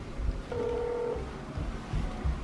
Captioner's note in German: Telefon klingelt